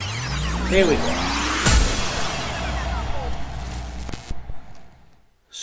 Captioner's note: tape rewinding